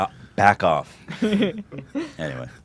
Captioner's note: laughs